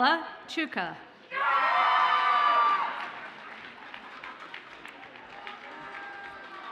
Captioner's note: audience cheers and applauds